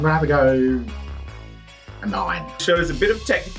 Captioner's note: dings